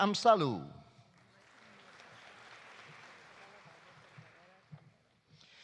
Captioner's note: audience applauding